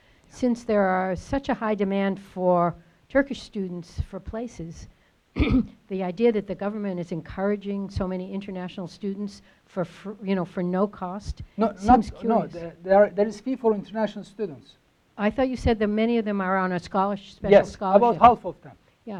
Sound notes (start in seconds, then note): 5.4 clears throat